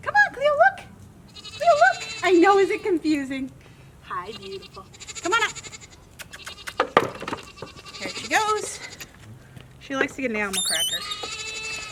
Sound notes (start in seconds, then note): 6.1 goat bleating in background